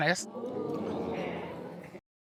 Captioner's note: audience exclaiming